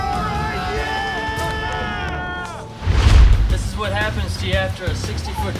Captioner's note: crowd cheering